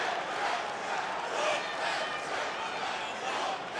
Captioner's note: crowd chants